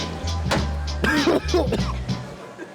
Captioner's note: coughing